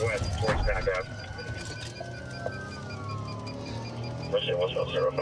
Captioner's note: sirens wailing